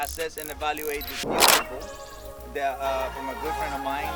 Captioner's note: camera clicks